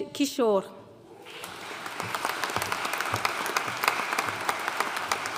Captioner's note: audience applauding